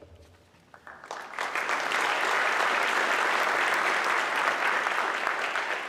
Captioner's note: audience clapping